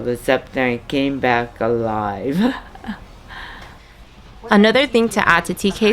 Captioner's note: laughs